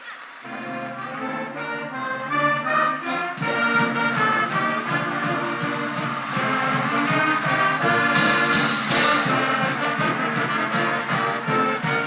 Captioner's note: cheers